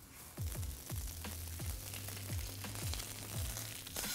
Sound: pan sizzles

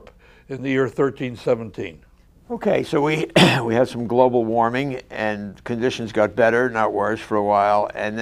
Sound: throat clear

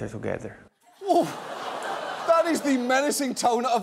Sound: audience laughing

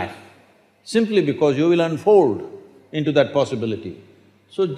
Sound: none

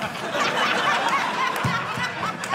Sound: audience laughing

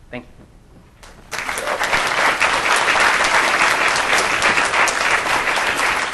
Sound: applause

